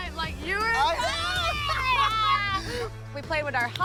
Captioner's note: both cheer